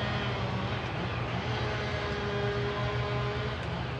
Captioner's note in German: Motorsägenlärm